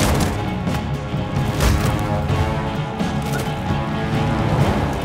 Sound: fists whacking; Stormfront thudding; dramatic music

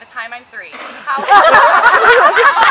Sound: spits water

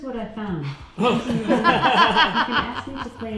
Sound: both chuckling

